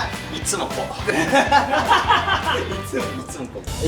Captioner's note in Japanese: 笑い声